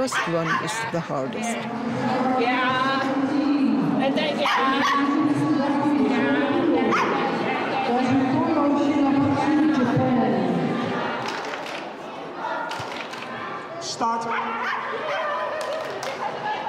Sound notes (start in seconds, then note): 4.5 dog barking; 11.1 synchronized clapping; 14.3 dog continues barking